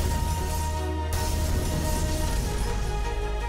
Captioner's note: device crashing; dramatic music